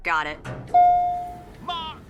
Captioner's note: elevator dings